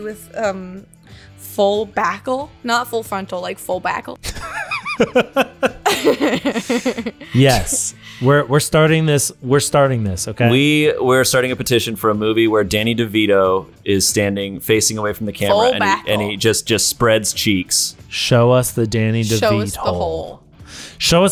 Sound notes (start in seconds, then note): 4.2 laughter